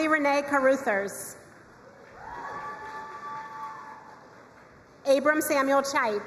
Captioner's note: crowd cheering and applauding